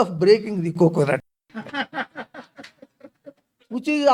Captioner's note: laughs